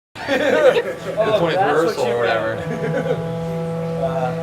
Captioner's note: horn blows in background